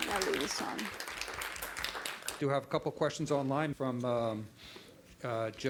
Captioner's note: applause